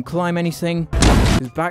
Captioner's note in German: Boom